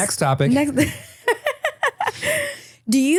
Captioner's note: laughing